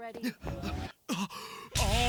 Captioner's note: gasp